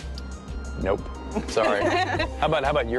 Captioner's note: laughter